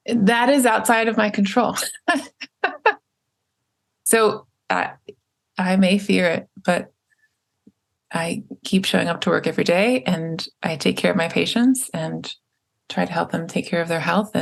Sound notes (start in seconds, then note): 1.8 laughs